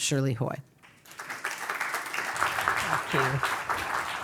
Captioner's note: applause